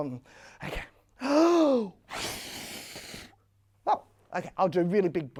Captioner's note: blowing air sounds can be heard